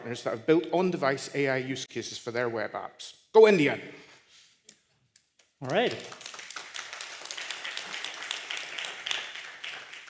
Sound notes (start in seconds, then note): 5.6 applause